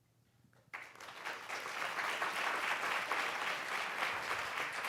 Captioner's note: audience applauds